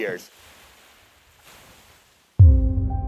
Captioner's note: gentle waves splashing; dramatic piano music